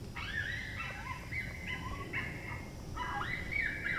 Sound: yipping

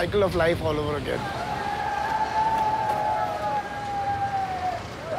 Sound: indistinct shouting throughout

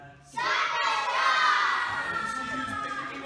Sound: team cheers

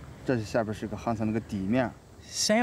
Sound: speaks in foreign language

